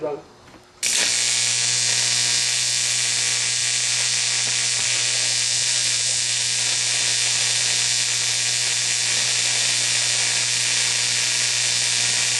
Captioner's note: welding